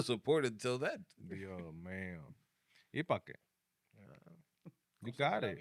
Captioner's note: speaking Spanish